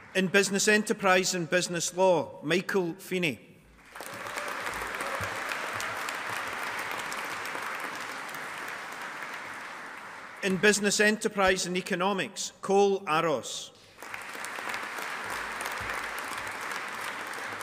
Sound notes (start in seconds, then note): 3.8 audience applauding; 13.9 audience applauding